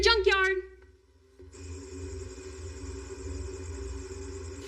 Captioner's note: cririckets chirirring; soft musisic